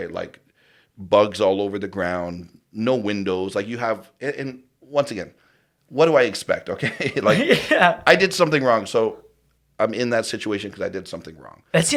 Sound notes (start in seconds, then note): 6.8 laughs